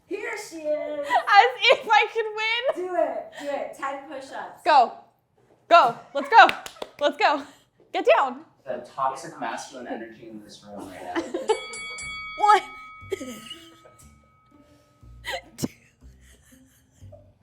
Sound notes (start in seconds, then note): 6.4 claps; 11.2 bell dinging; 16.1 laughs